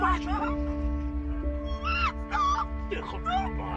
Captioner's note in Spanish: Grita